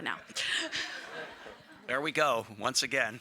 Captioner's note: audience laughing